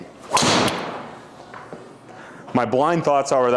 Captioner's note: golf club whacks